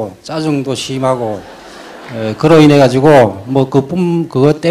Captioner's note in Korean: 청중 웃음